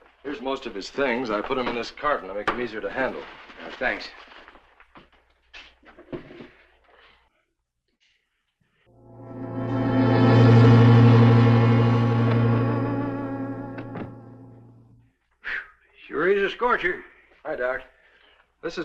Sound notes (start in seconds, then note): 8.9 suspenseful music; 14.0 door thuds